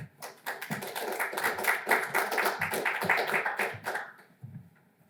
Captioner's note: audience applauds